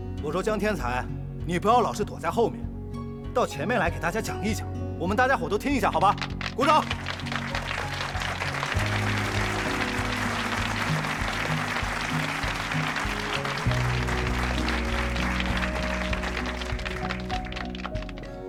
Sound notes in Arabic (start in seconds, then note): 6.5 تصفيق